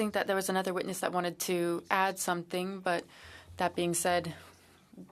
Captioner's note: speaking French